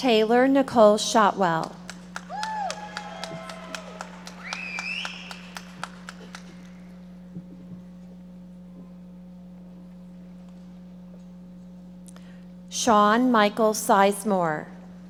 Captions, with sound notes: Taylor Nicole Shotwell. (audience members cheering and applauding) Shaun Michael Sizemore.